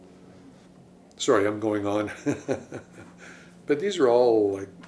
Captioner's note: laughs